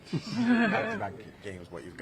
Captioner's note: laughing